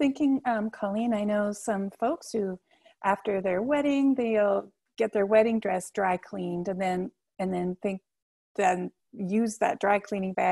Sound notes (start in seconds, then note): none